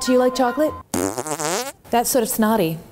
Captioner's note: blows raspberries